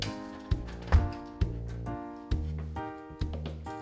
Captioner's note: upbeat music; door clunks